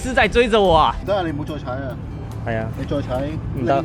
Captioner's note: tire blowout